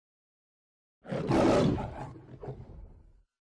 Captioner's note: lion roars